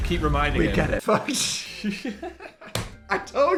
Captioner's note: laughing